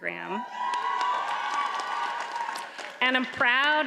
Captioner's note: audience cheers and applauds